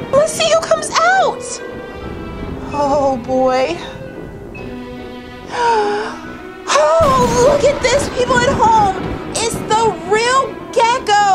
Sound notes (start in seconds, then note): 0.0 thunder crashes; 5.4 gasps